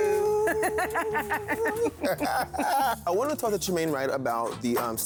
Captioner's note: both laughing